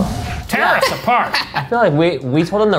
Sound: dramatic music; laughing

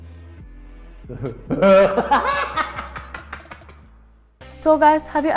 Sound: crazy laughter

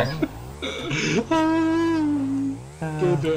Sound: unusual wailing

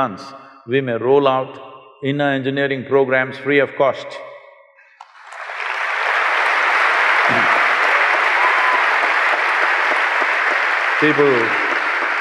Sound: cheers/Applause

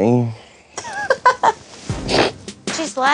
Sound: laughs

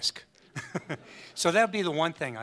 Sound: audience laughs

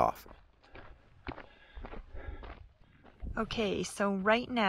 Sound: footsteps crunching

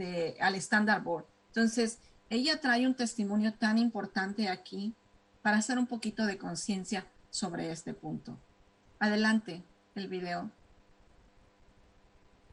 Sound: speaking spanish

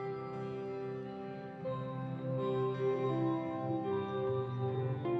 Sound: none

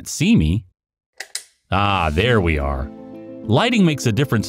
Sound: click sound effect

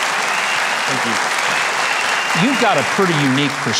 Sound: audience cheering

